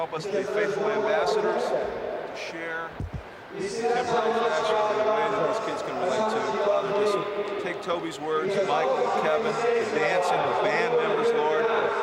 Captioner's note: group prays